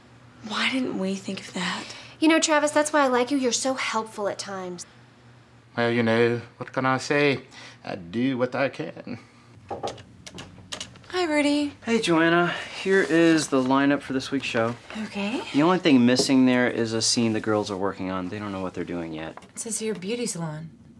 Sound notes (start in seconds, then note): 9.7 knock on door